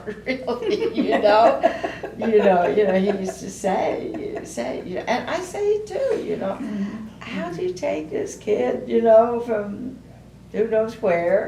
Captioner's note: laughter